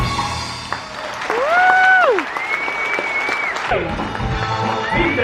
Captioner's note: audience cheering